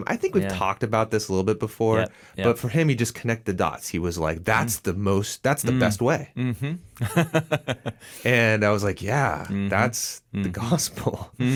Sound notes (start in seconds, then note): 7.0 laughs